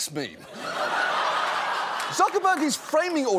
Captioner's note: laughter